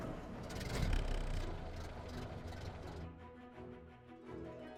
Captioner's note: whirring